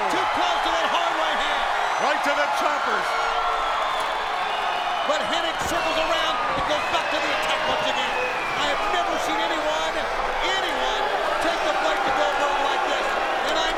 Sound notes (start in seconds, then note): 3.5 audience boos and cheers